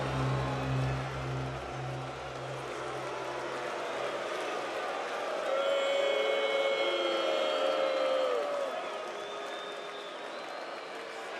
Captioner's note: crowd cheering